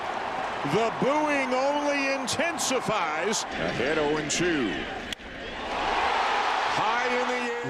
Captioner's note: cheers and Applause